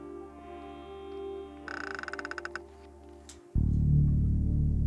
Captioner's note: loud creaking; ominous music